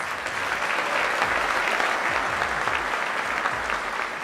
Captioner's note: applause